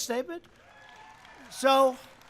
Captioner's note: audience clapping and cheering